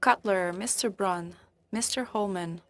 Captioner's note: speaking French